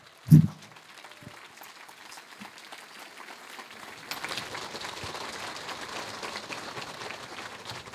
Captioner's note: applause